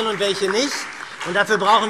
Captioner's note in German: Beifall SPD, Freie Demokraten und DIE LINKE